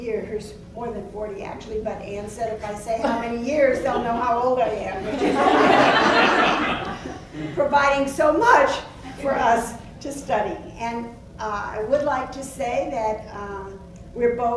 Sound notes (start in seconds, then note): 4.7 laugh